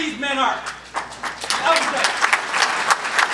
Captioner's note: clapping